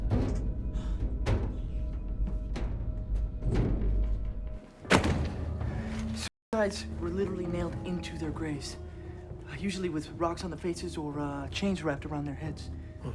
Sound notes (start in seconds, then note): 0.2 elevator top thudding; 4.8 book thuds